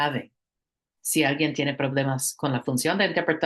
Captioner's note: speaking spanish